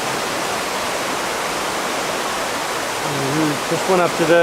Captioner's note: water rushes